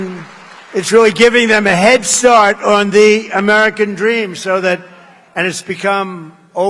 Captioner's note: applause